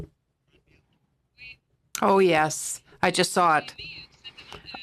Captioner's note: speaking French